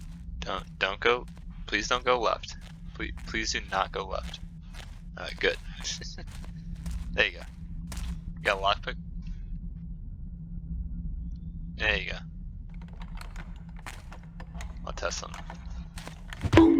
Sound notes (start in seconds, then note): 6.4 chuckles; 16.4 blackjack thuds, comical BONK! SFX plays